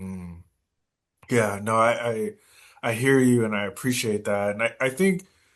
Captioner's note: hums in agreement